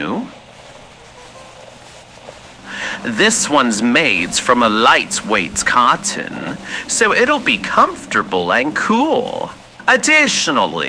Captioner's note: cloth sounds as he dresses Listener fx